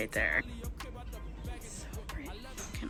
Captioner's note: whispers